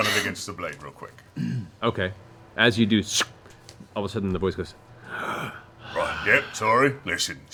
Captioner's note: gasp, contented exhale